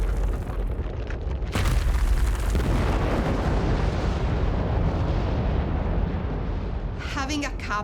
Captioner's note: explosions echoing